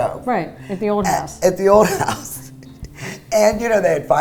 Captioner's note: laughs